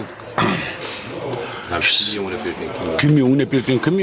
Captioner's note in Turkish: boğazını temizler